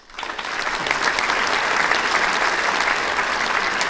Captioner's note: audience applauds